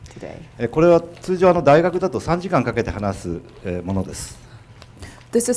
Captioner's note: speaking foreign language